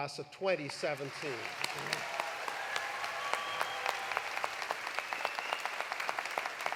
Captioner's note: audience applauding; audience cheering